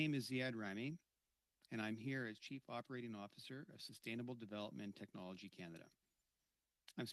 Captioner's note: speaking French